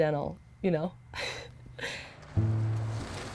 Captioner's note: chuckles